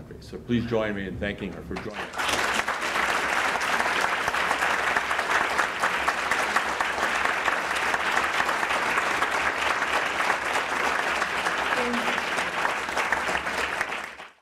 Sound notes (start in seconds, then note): 2.5 applause; 12.1 applause